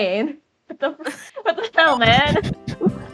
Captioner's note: chuckles